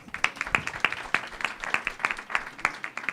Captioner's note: applause